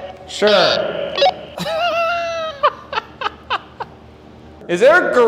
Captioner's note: laughing